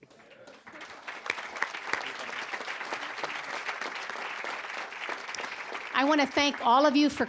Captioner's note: applause